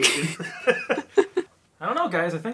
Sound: laughing

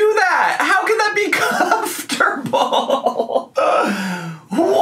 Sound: laughs

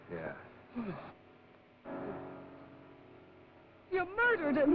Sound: Jan moans

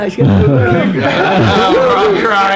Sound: laughs

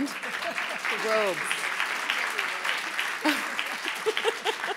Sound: audience applauding

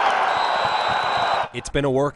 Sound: whistle

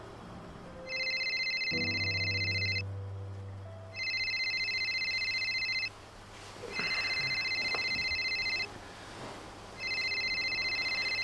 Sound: phone ringing

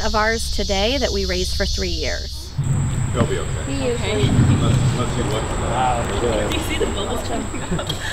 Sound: laughing

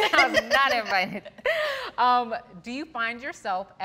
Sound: all laughing

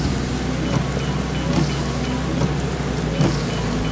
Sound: cell phone rings

